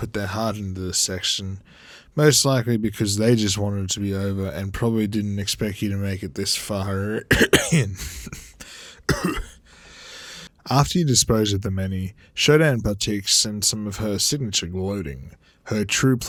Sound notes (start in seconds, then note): 9.0 cough cough